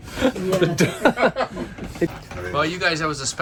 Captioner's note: laughing